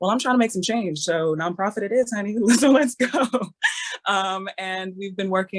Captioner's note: laughing